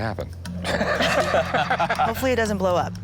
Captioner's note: all laugh